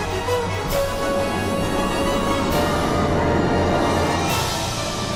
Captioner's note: coaster whirring